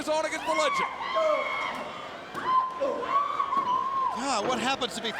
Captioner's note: Daffney screams